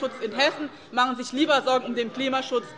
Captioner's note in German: Zurufe von der SPD